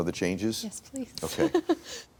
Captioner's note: laughs